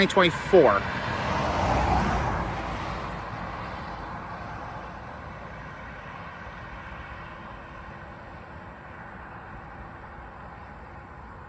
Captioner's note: Traffic on Paulding Road